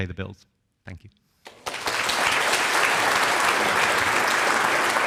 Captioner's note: audience applauds